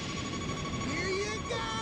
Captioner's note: beeping